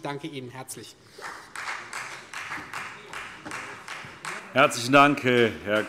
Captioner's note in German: Beifall Freie Demokraten